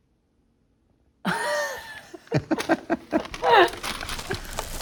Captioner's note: laughs